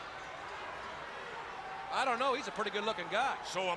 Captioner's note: crowd chatter